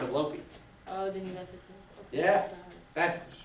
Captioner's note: student speaks softly